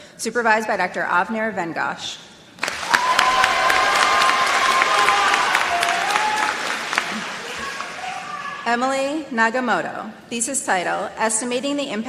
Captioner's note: applause